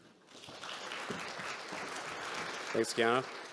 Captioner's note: audience clapping